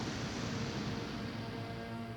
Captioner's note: rocket rumbling